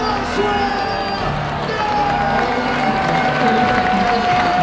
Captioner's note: crowd cheers